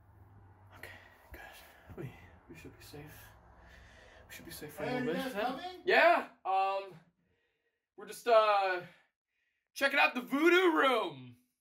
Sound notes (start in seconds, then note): 4.7 yells